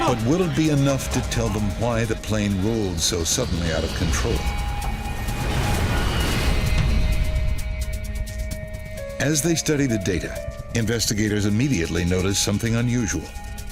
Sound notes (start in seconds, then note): 0.0 intense music; 5.0 explosion thuds